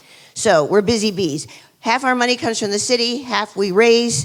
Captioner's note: none